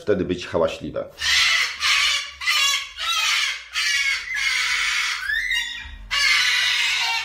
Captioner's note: cockatoo scream